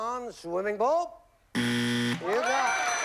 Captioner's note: buzzer